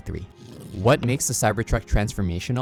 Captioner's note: vehicle revving